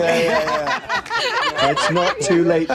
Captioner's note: panelists laughing